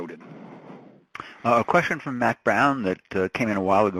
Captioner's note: voiceover